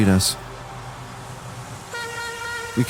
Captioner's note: tug boat horn